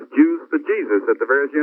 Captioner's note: laughing